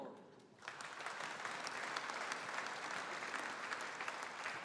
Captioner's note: audience applauding